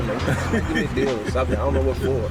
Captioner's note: laughs